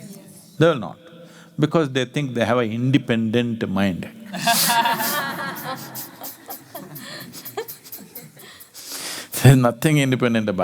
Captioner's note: laughter